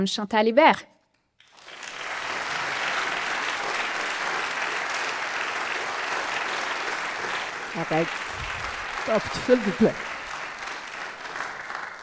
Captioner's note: applause